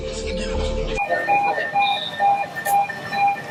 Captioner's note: sound of ambulance